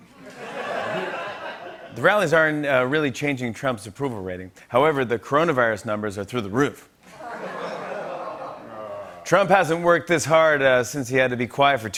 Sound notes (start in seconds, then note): 0.2 laughter; 7.1 laughter and ohhs